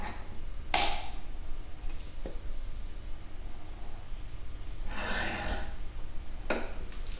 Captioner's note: sound of nail being pressed into wood